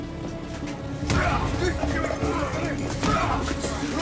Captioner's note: man shouting